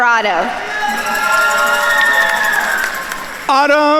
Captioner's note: attendees cheering and applauding